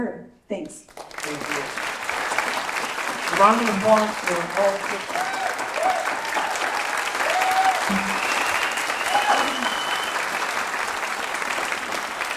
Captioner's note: applause